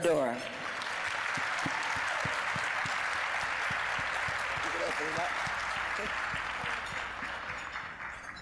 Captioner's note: applause